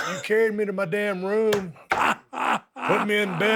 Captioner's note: Dallas laughs